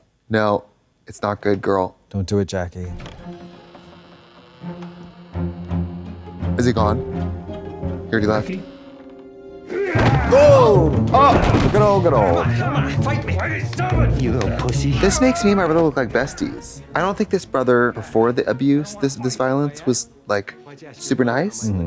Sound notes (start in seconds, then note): 3.3 spirited music; 10.1 grunts